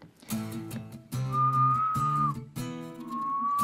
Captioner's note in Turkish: Islık sesi